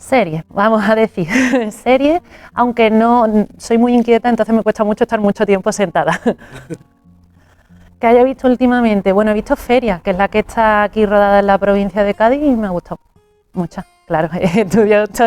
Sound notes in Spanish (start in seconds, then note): 6.1 risas